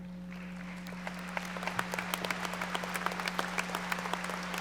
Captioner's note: audience applauding